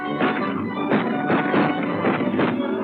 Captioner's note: gunshots